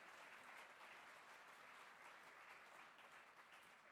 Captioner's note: applause